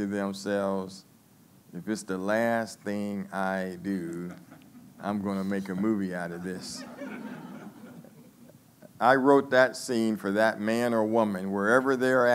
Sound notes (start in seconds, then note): 8.8 laughing